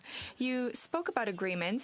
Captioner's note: speaking in French